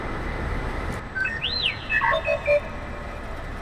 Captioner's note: R2D2 beeps